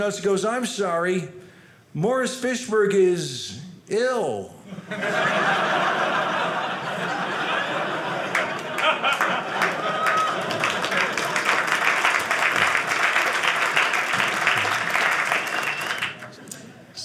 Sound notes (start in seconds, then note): 4.7 audience laughing; 9.5 audience applauding